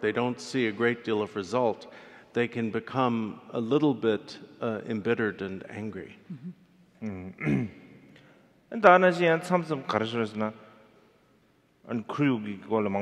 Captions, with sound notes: they don't see a great deal of result, they can become a little bit embittered and angry. (clears throat) (speaking in foreign language)